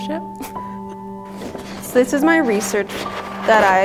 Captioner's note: laughs